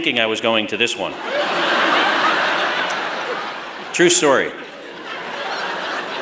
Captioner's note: laughter